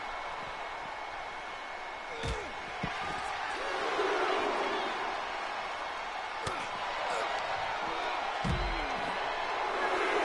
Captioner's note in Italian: Applauso